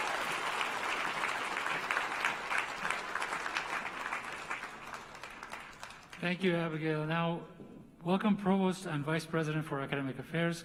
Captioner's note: applause